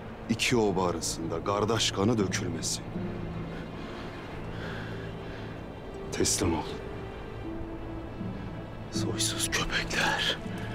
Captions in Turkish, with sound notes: İki oba arasında gardaş kanı dökülmesin. (Nefes sesi) Teslim ol. Soysuz köpekler!